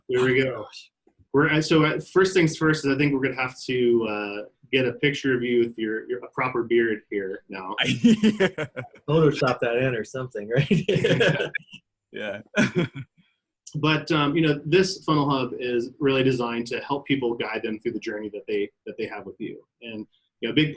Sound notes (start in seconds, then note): 7.8 laughing